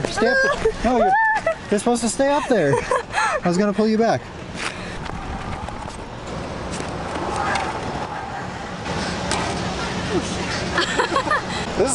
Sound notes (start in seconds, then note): 5.1 zip line whizzing; 9.8 laughs